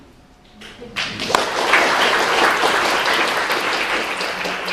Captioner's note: applause